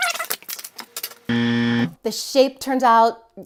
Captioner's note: buzzer; tape rewinding